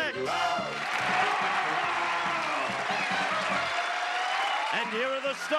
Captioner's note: applause